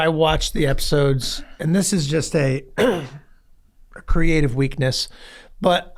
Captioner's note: clears throat